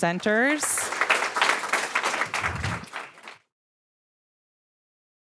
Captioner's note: audience applauds